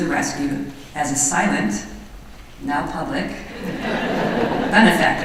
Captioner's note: laughter